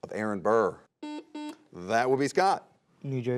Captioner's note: buzzer buzzes